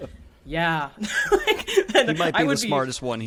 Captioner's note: all laughing